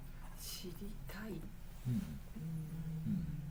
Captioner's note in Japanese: 鼻息